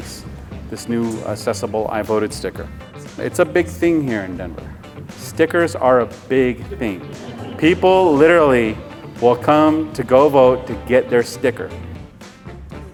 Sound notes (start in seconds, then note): 5.8 chuckles; 5.8 crowd laughs in agreement